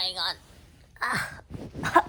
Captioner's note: groan